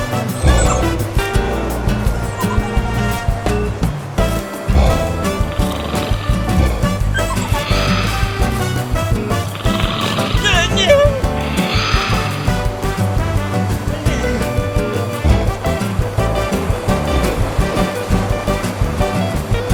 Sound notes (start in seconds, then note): 10.7 shout